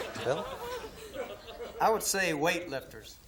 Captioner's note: laughter